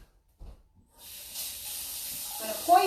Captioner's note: water gushing